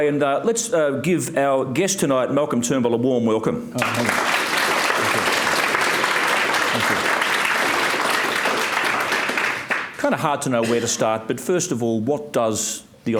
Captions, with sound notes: and let's give our guest tonight, Malcolm Turnbull, a warm welcome. (audience applauds) Kind of hard to know where to start, but first of all, what does the